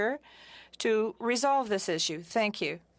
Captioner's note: speaking french